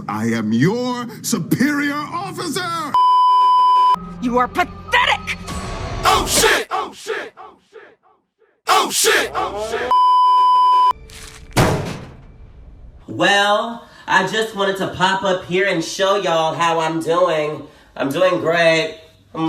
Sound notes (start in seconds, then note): 5.5 dramatic sting; 9.9 beeeeeep; 11.6 thunk